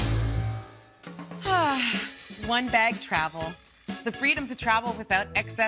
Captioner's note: sighs